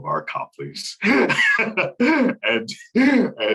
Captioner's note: laughing